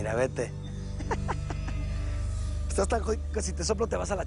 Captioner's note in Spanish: Risas